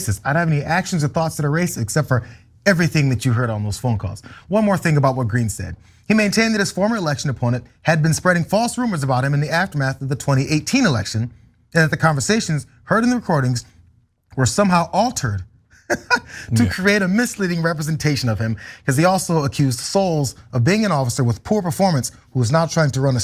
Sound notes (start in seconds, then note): 15.7 laugh